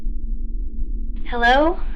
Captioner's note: SFX: connection